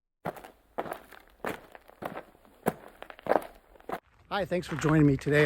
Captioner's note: footsteps on gravel